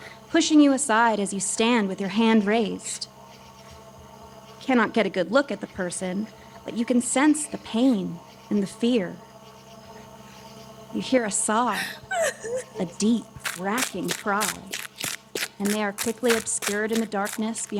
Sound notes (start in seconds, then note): 11.7 sobbing; 13.4 crunching